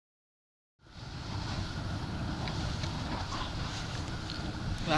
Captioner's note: the sound of a geiser is heard in the background